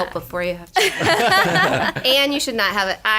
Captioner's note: laughter